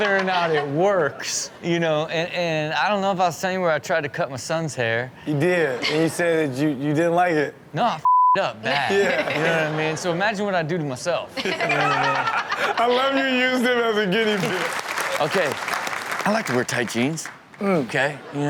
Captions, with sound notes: Whether or not it works. You know? And I don't know if I was telling you where I tried to cut my son's hair. - He did. He said, you, you didn't like it. No I (beep) up bad So imagine what I do to myself. - I love how you used him as a guinea pig. (audience clap) - Okay, I like to wear tight jeans.